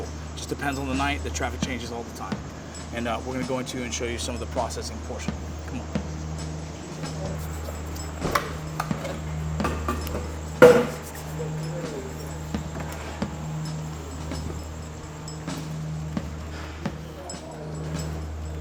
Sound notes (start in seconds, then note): 7.0 sounds of moving items on desk; 11.0 drums play